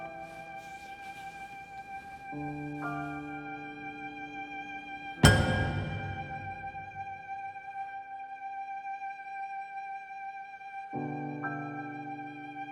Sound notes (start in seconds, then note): 5.5 sharp tone; 7.5 serene music